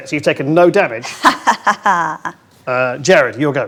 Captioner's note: laughs